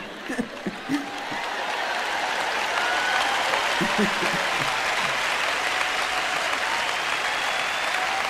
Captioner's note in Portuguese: audiência aplaude; audiência ri